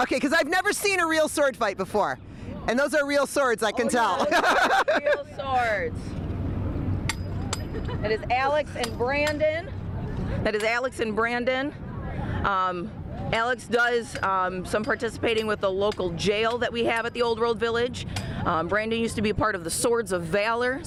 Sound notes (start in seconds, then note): 4.1 laughs